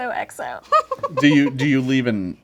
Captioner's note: giggling